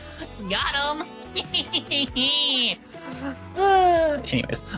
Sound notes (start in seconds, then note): 1.3 laughing